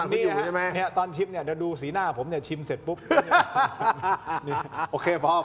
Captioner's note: laughs